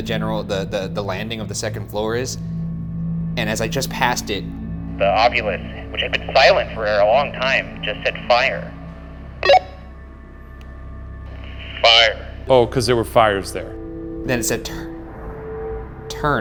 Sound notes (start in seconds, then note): 9.4 walkie talkie beeps